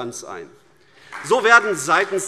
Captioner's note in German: Beifall AfD